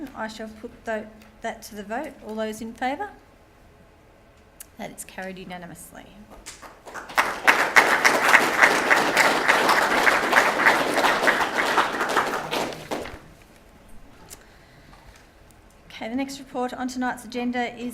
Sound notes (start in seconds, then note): 6.4 gallery applauding